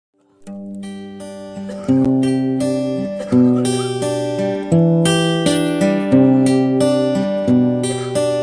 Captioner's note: coughing